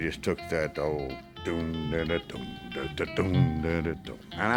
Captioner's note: humming tune